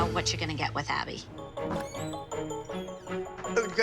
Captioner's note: door opens